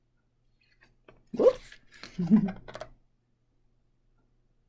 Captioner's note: laughs